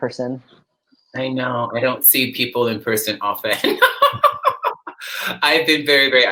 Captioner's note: laughs